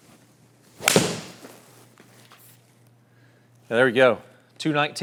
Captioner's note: golf club swings